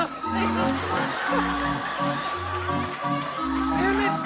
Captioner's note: laughs; laughter